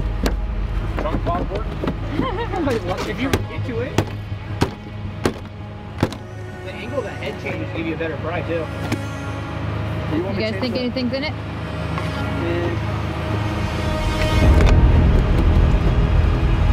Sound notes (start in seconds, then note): 1.9 background chattering; 13.9 dramatic music